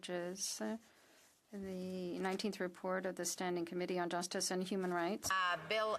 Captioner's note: off mic